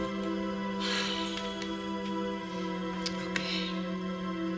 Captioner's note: Nora sighs